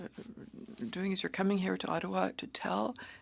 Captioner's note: speaking French